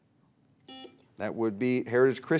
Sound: buzzer beeps

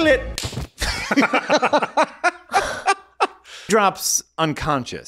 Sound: laughing

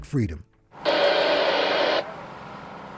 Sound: radio static

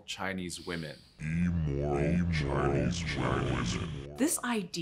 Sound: immoral Chinese women reverberates

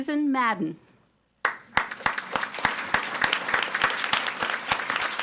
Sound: audience applauding

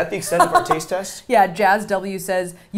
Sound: laughing

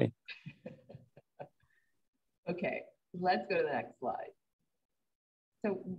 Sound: laughing

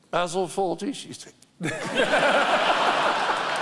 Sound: laughter; mimicking laughter

